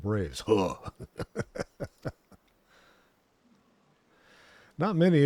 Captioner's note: laughs